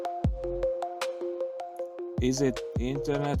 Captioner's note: narrator over music